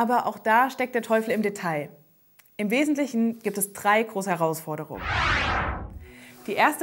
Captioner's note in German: Soundeffekt